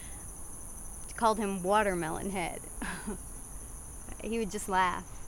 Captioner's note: chuckles